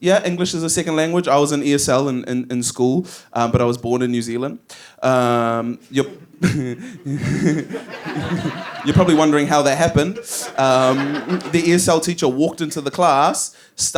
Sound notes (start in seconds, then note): 6.0 laughs